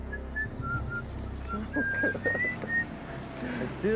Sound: whistling

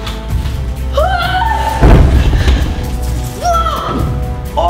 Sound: screams

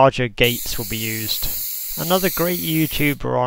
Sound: compressed air blowing noise

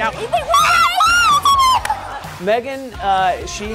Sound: guys laughing; screaming

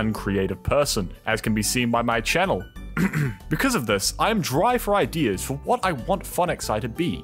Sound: ahem

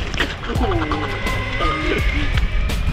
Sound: laughs

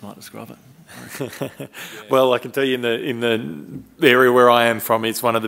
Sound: chuckles

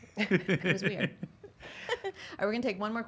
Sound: laughter

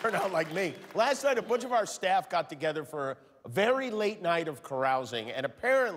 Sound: cheers and applause

